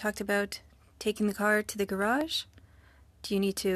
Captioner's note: speaking french